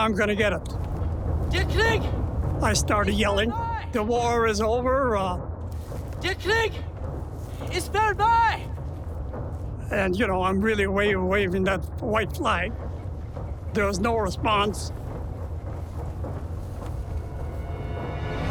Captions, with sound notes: Now I'm gonna get it. I started yelling, "The war is over!" (speaking foreign language) and you know, I'm really waving that white flag. There was no response.